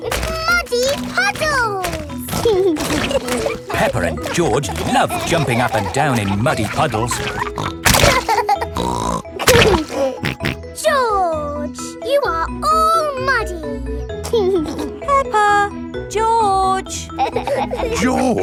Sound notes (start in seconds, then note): 8.1 laughs and snorts; 14.2 giggling